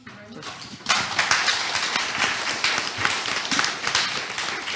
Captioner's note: audience applauding